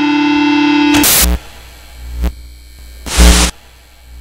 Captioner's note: static